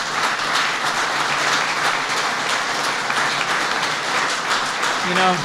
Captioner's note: applause